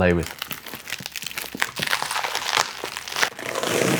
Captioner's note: plastic crinkling; box scrapes